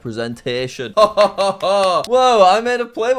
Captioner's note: laughs